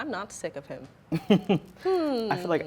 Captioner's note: laughing